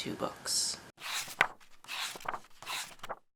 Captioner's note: pages turning